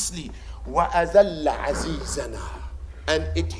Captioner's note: Arabic